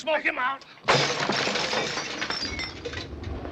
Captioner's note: glass shatters